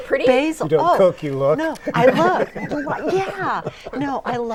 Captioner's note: laughing